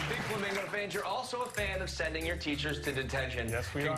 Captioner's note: applause